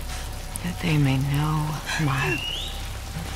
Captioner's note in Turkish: ıslık